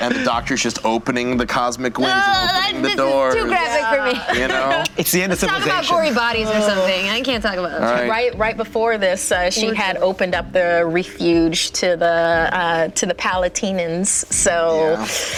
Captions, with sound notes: And the Doctor's just opening the cosmic winds (disgusted wailing) and opening the doors. This is too graphic for me. It's the end of civilization. Let's talk about gory bodies or something, I can't talk about-- Right before this, she had opened up the Reefuge to the Palatinians.